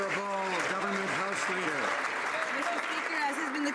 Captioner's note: some Applause